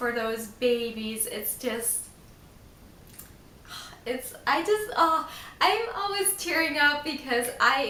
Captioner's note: sigh